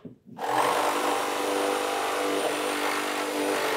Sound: drill whirring; saw humming

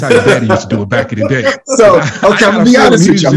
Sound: laughs

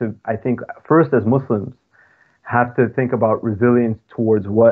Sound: laughing

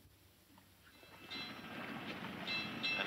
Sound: bell ringing

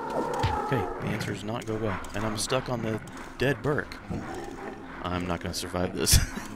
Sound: laughs

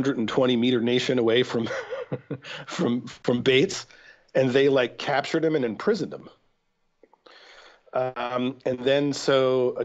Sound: chuckle

